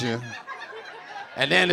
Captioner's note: audience laughing